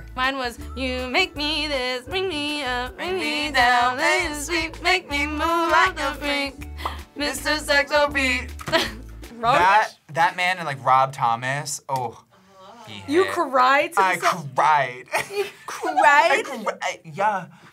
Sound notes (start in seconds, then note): 8.8 laughs; 15.1 laughs